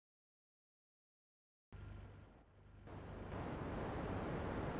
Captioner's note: wind blowing